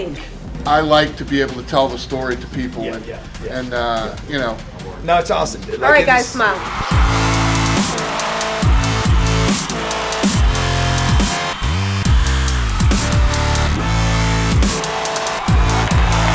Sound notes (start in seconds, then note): 7.0 upbeat electronic music; 8.9 cheering audience